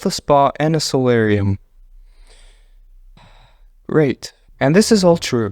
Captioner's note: exhale; inhale